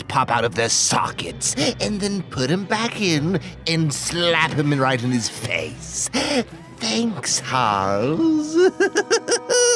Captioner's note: awesome Laugh